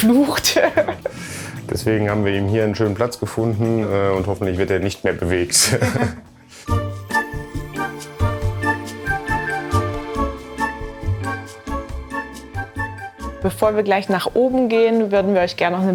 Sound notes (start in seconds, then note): 5.6 they laugh; 6.6 playful music